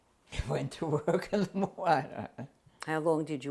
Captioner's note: laughs